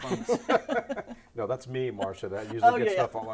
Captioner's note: laughter